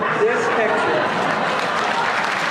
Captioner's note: applause; laughter